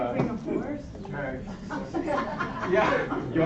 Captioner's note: laughter